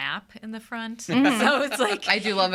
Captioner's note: laughing